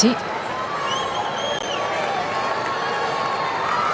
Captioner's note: applause